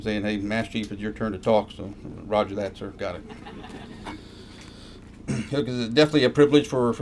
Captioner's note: laughter